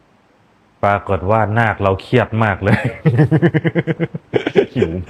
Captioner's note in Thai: เสียงหัวเราะ